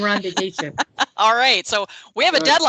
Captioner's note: laughing